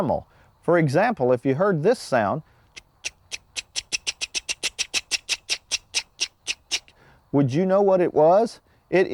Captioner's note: wildlife call